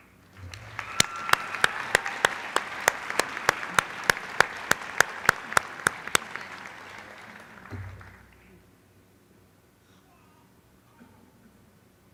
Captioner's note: applause